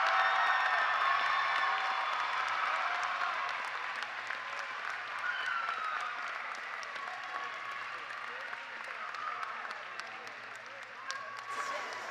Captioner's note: cheers and applause